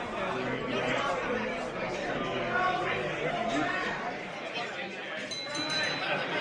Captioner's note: glass clinks